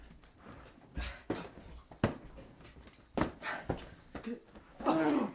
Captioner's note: pillow thudding